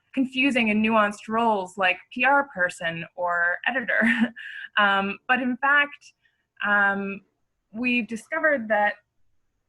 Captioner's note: laughs